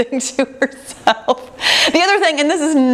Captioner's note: laughs